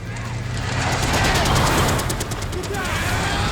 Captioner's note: tires screeching